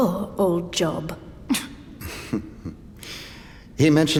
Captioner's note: some members laugh quietly